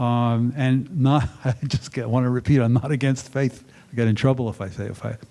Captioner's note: chuckling